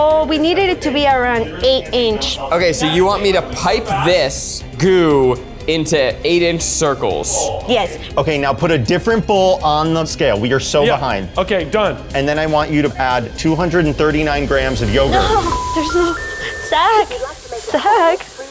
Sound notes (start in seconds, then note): 15.2 phone beeps